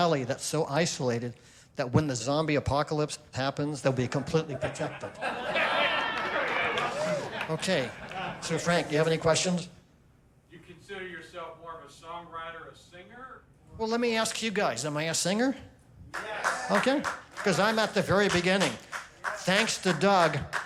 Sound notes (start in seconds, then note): 4.0 laughter